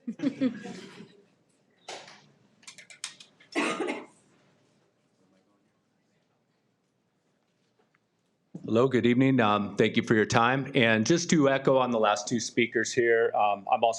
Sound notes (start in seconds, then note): 0.0 trustees laughing